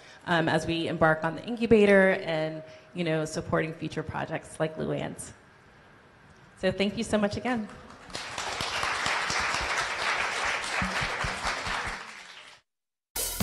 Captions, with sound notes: as we embark on the Incubator and supporting future projects like Luanne's. So thank you so much again. (applause)